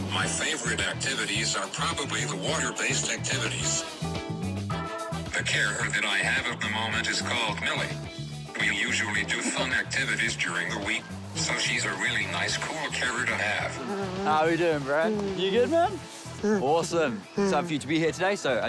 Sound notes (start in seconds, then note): 16.3 grunts